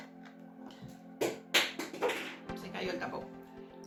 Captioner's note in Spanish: Ruido: tapón cayéndose